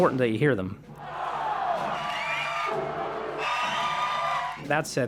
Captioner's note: cheering and booing